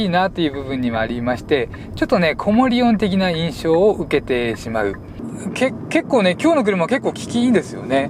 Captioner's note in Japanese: 低周波ノイズ